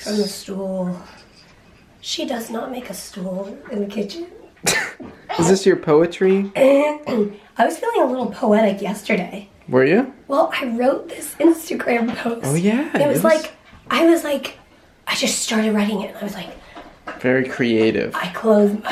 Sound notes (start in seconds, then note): 4.6 snorts